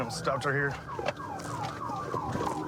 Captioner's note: sirens blaring